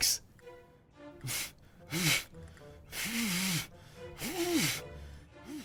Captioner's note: henry blows repeatedly